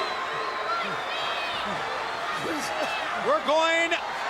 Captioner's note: crowd chattering